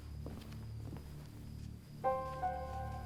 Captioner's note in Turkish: Ayak sesi